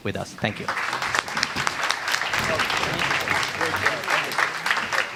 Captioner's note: audience applauds